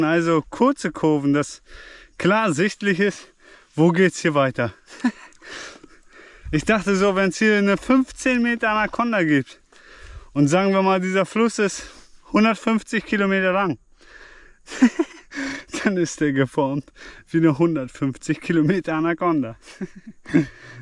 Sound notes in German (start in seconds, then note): 14.6 gelächter